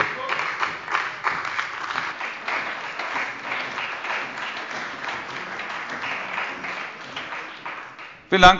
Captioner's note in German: Beifall bei dem BÜNDNIS 90/DIE GRÜNEN und der CDU